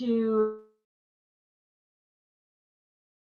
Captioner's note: momentary silence